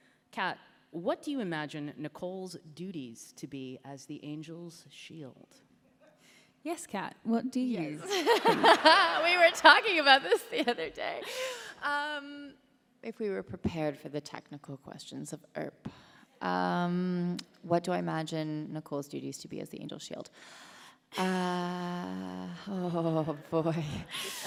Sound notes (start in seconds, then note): 7.9 Kat laughing; 8.0 laughing